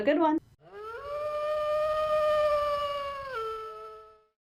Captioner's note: distant wolf how